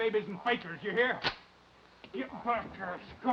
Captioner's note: gun cocking